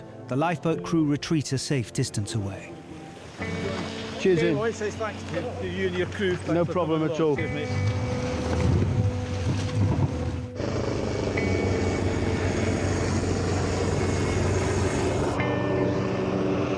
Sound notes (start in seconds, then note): 7.3 gentle music; 9.7 helicopter blades whirring; 14.1 gentle music